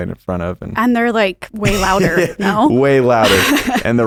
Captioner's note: laughs